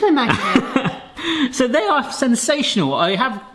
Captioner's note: laughs